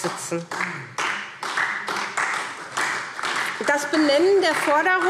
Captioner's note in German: Beifall SPD